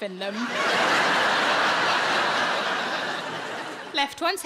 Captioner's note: audience laughing